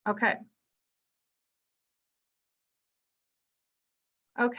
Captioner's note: silence